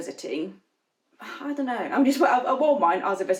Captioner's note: sighs